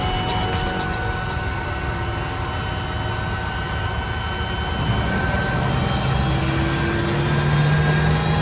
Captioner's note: turboprop whine intensifies